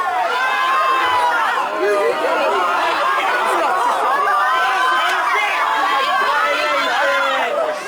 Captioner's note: boy screaming; more yelling